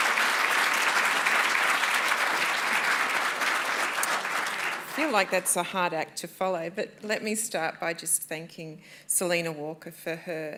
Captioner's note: applause